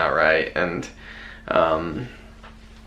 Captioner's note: none